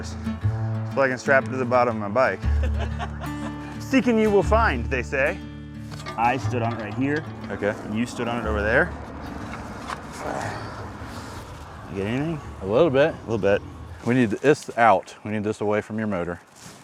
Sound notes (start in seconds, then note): 2.5 laughing